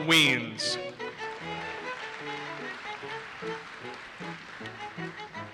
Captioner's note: audience applauses